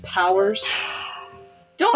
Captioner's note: sigh